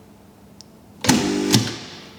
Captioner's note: pump whirring